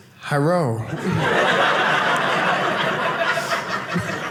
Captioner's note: audience laughing